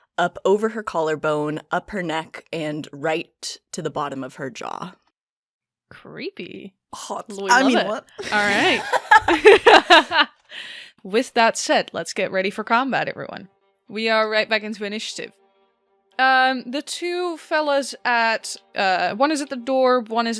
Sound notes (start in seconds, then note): 8.2 laughter